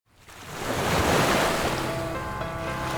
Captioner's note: waves crashing